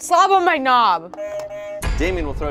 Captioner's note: buzzer rings